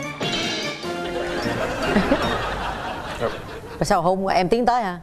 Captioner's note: laughing and applause